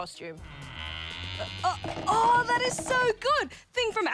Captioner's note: creaking